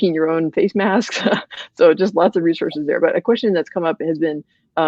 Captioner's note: laughs